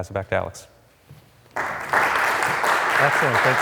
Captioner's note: audience claps